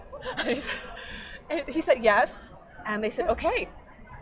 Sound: laughing

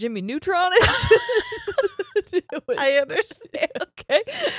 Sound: both laughing

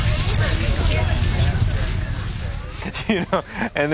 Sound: laughing

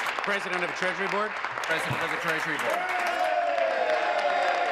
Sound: applause

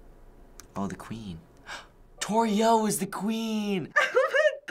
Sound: gasping

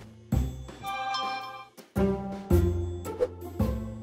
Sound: text tone

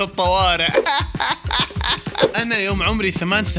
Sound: sarcastic laughter

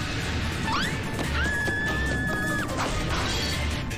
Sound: screams in Indiana Jones

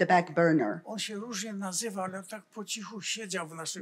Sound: foreign language

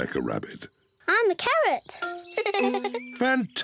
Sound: laughs

